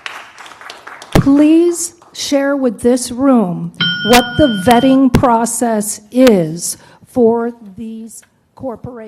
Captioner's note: applause